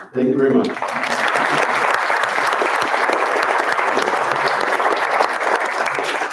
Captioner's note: round of applause